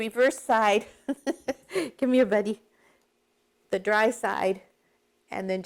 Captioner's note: laughs